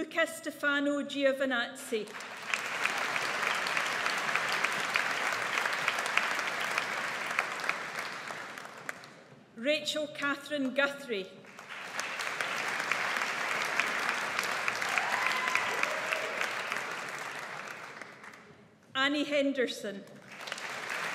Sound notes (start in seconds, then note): 2.1 audience applauds; 11.5 audience applauds